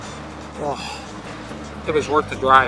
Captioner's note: sighs